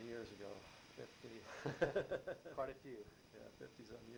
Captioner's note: laughs